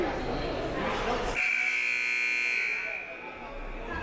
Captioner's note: buzzer